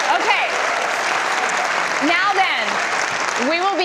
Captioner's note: audience cheers and applause